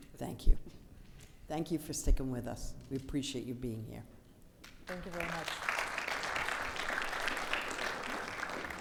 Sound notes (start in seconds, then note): 4.8 audience applauding